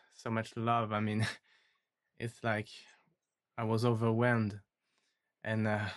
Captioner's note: chuckles